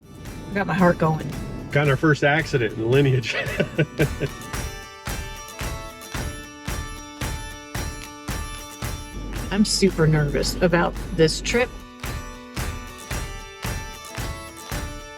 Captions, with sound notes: - I got my heart going. - Got in our first accident in the Lineage. (laughs) (bright music) - I'm super nervous about this trip. (bright music)